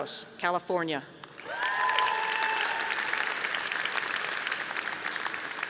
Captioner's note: audience applauding